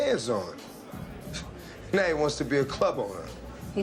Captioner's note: scoffs